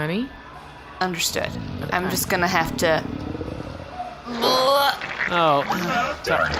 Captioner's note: starts heaving